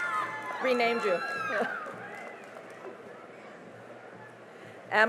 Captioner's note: cheering and applause